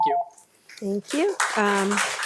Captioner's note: machine beeps